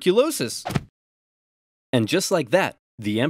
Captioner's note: body thuds